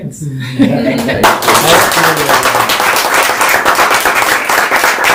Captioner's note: applause